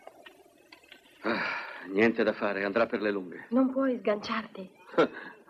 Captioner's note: sighs